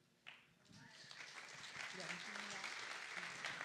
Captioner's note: applause